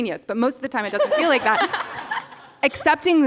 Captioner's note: laughter